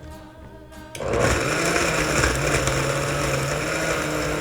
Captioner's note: blender grinding